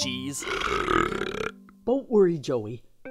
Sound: burps

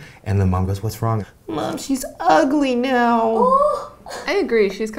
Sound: gasping

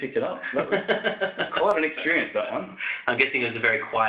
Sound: laughs

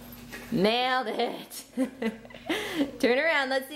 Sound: laughs

